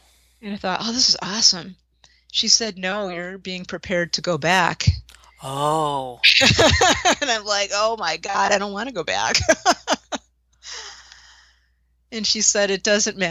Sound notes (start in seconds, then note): 6.3 laughter